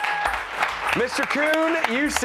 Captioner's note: cheers and applause